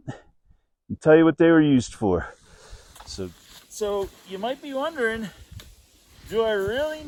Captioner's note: snow crunching